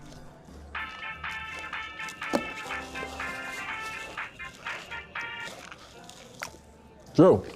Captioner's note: cell phone rings